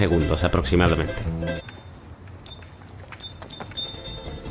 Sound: bicycle bells

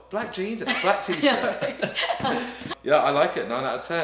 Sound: laughing

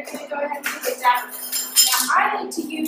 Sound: measuring spoons clanking

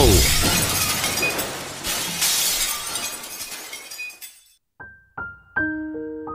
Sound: glass shattering; sad music

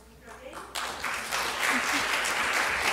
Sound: applause

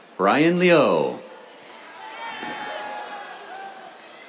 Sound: cheers

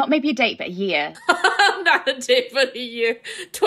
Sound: laugh

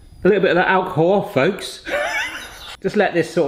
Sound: laughs

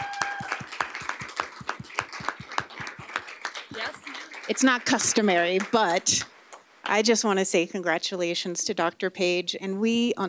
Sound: applause

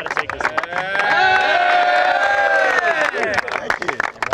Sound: cheering

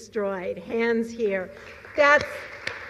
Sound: applause

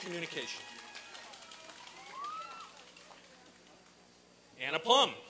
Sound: applause and cheering

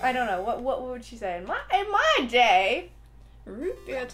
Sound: old lady voice

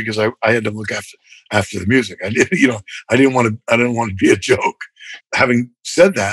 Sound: laughter

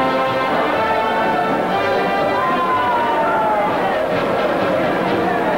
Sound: crowd chattering indistinctly

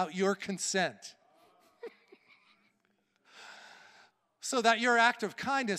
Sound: laughing

